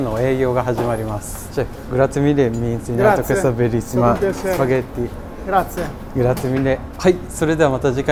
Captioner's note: Italian